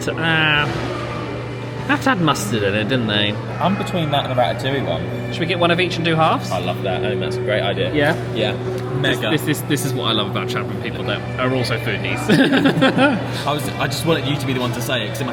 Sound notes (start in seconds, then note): 12.2 men laugh